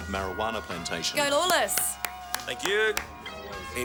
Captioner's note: Trina clapping